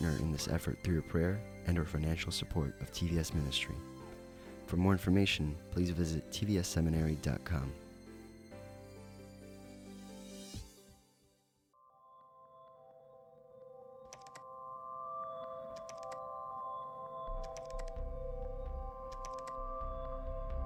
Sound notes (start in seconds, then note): 10.2 instrumental music; 12.7 keyboard clacking